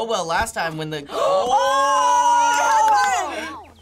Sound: gasps

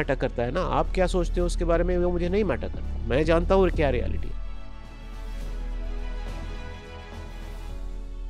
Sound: speaks hindi

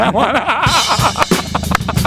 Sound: laughes

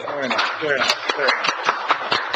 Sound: audience applauding

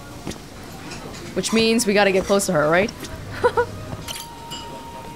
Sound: chuckles

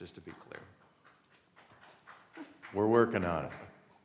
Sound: applause

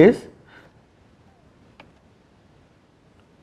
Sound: etching

